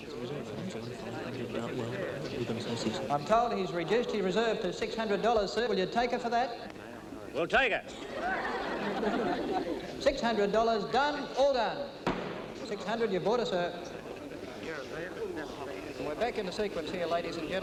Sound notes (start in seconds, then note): 7.9 audience laughing; 12.0 gavel bangs